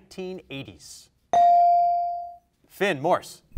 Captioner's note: bell rings